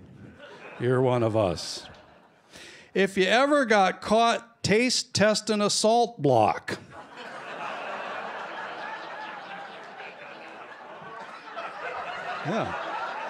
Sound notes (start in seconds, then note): 0.3 laughter; 6.8 laughter